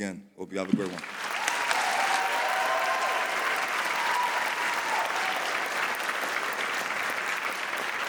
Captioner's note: audience applauding